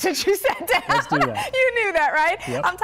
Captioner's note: laughter